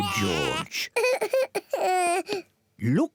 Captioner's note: cries